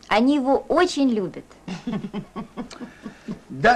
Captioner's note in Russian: смех